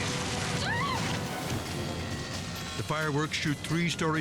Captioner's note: explosion booms; screams; explosion booms